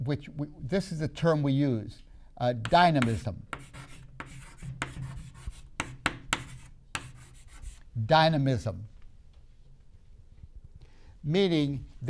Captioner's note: chalk sounds